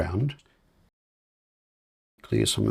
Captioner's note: silence